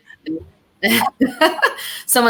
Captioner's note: laughter